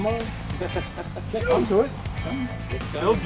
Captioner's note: lalaugughthterer